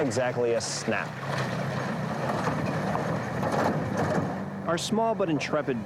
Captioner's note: vehicle rumbling